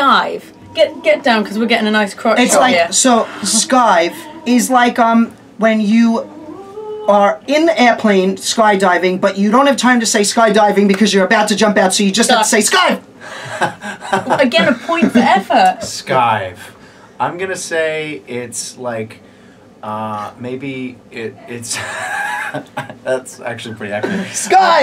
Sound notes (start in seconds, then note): 13.3 laughs